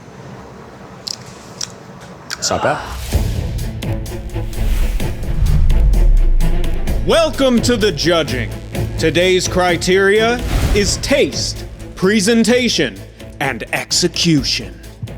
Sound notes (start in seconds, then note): 1.9 lips smacking; 4.0 intense music